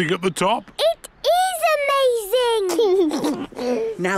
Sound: George giggles

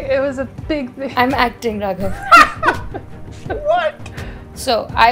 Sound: laughing; laughter

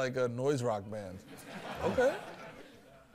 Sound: laughter

